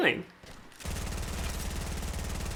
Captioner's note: gunfire